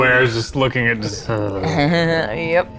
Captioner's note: groans; chuckles